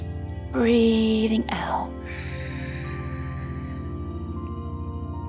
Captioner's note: inhales; exhales; calm music